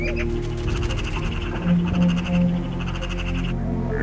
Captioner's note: bird chattering